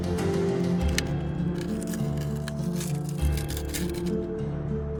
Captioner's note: bone cracking